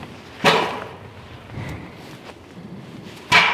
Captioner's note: knocking